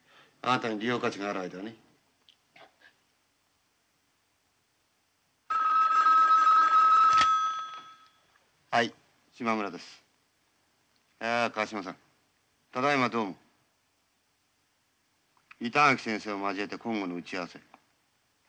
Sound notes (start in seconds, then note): 5.4 telephone ringing